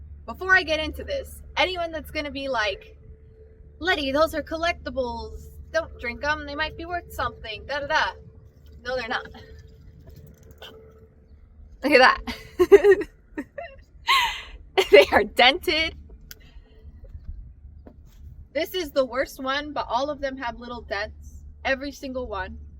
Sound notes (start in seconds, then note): 12.3 laughs